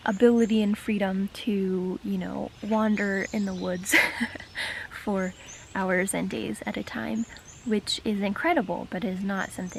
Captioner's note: laughs